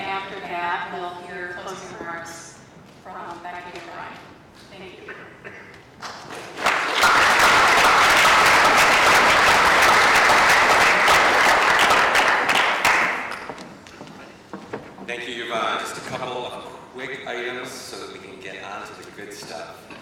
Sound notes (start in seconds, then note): 6.0 clapping